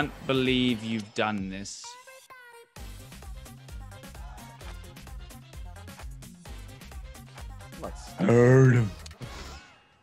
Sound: laugh

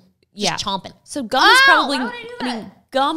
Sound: yells

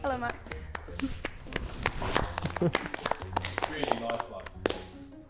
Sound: Sidemen chuckling; Sidemen applauding

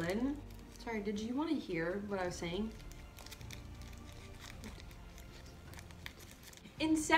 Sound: crinkles wrapper

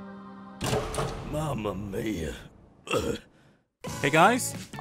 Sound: cough

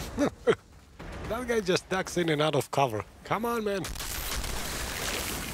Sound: laughs

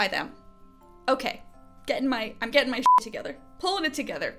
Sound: beep

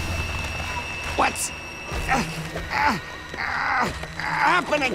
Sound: grunting

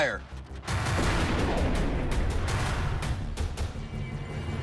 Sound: gun shot

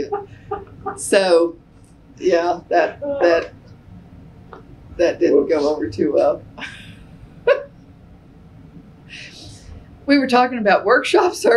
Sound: laughter

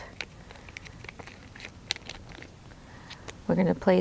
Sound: packaging rustles

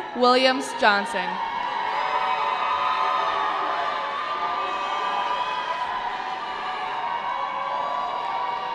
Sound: cheering

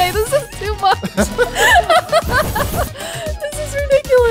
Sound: both laugh

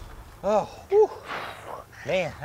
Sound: both sighing

